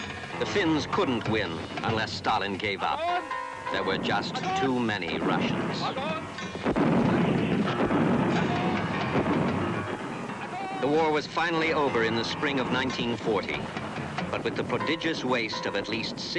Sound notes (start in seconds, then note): 5.8 officer speaking in foreign language; 6.6 heavy artillery blasting